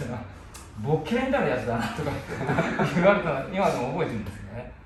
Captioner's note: laughter